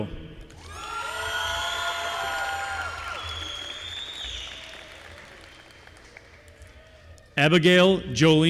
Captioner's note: applause